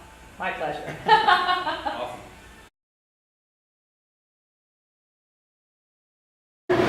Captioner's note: laughs